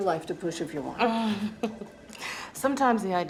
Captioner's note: Beverly chuckles